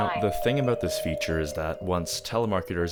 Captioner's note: phone rings